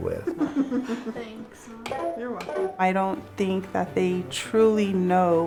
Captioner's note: laughing